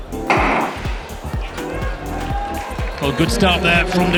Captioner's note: starting pistol firing